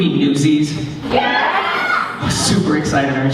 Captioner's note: cheering